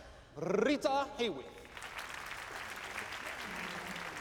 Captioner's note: applauding